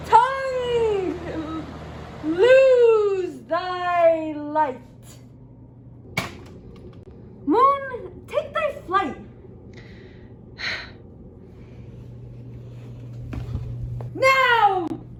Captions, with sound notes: Tongue, lose thy light! Moon take thy flight. (moon sighs) Now, die!